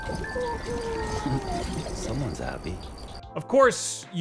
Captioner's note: laughs